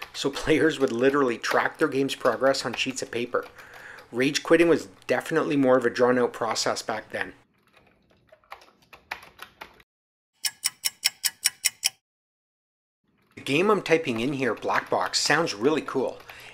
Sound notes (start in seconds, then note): 10.4 sound effect of a ticking clock